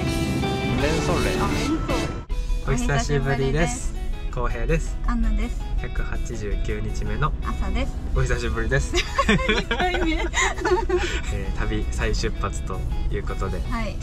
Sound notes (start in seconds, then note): 8.9 laughs